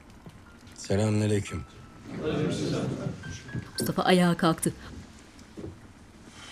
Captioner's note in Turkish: Hep bir ağızdan